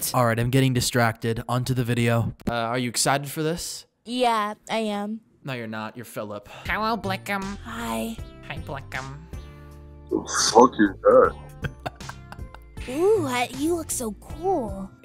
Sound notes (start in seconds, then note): 10.2 laughing